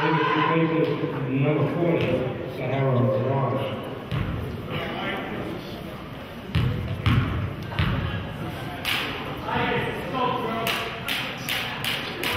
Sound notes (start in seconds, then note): 0.6 murmurs